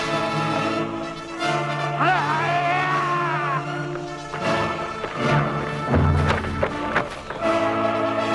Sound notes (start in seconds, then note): 1.9 raider yells